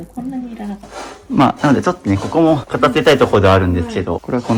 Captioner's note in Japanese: 鼻息